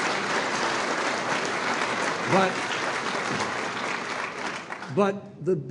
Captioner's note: applause